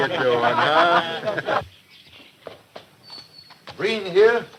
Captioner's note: laughing